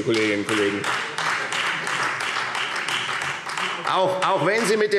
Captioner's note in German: Beifall Freie Demokraten und vereinzelt SPD